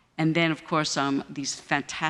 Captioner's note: none